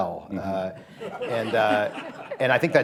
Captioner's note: laughter